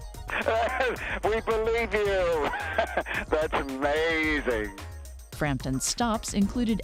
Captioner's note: laughter